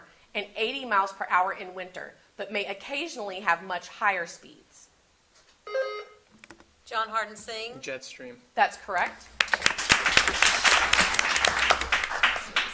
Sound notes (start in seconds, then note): 5.6 buzzer sounding; 9.4 audience applauding